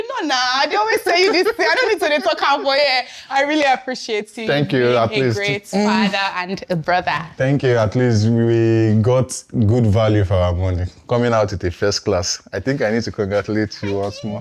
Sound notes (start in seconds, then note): 0.8 laughs